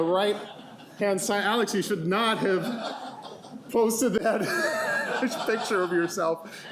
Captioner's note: laughing